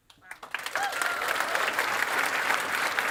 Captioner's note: applause